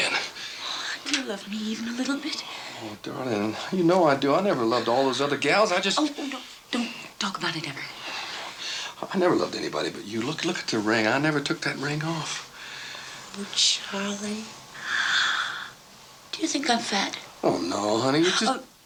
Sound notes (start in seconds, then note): 14.7 gasps